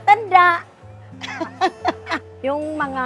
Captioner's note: laughs